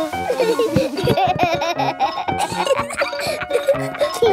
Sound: giggling

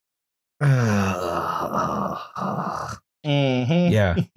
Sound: groans exasperatedly

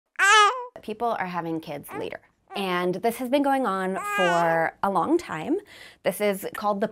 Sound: baby crying

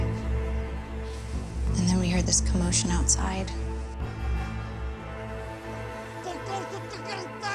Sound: Zhozef shouting in foreign language; men speaking in foreign language

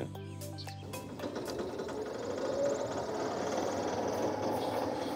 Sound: lawn mower running

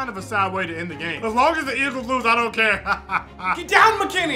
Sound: laughs

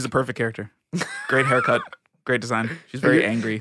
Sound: person laughing

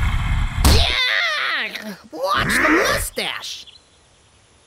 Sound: shrieks

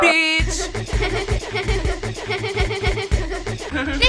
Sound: girls giggling

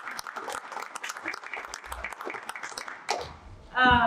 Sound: crowd clapping

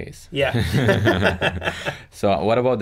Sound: both laugh

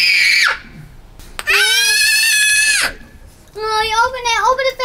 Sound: screams

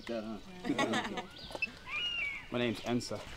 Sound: laughter

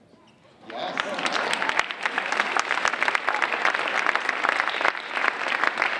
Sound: audience applauding

